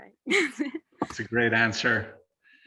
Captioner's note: laughs